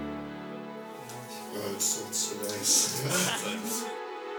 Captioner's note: laughter